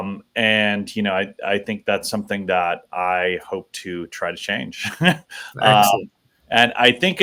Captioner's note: chuckles